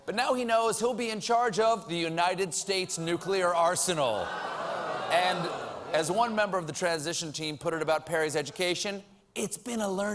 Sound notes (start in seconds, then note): 3.6 audience reacts